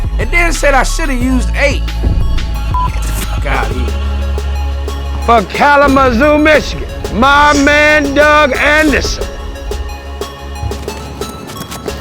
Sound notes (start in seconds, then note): 2.6 beep; 9.0 hip hop music